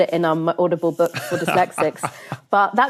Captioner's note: laughs